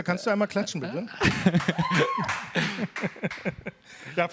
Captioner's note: applause